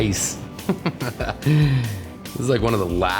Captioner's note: laughing